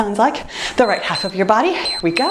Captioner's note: timer beeps